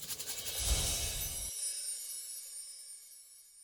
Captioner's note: shakes container of seeds; air whooshes